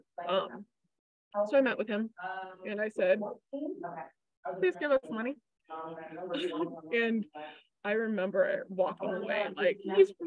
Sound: laughs

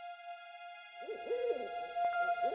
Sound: owl hooting

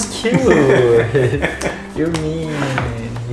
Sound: laughing

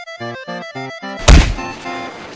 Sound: thud

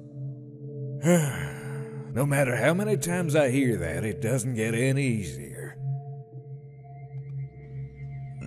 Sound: sighing

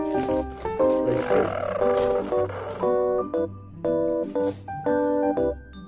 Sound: farts

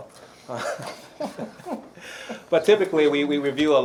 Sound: laughs

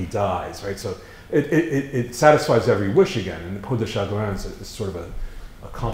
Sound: foreign language

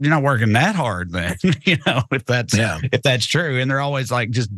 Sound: laugh

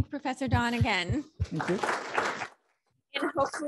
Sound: applause

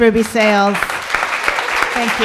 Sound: applause

